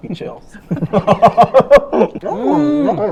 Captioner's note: laughs